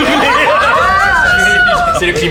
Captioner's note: delighted laughter